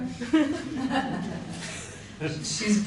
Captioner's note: laughter